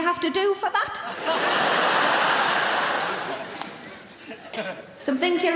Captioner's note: audience laughing